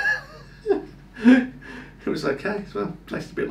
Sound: laughing

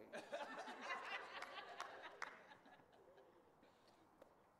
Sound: audience laughing

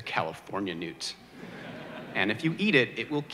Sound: audience laughter

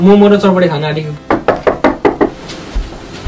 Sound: door knocks

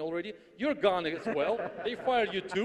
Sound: audience laughs

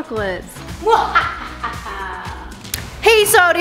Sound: evil laughing

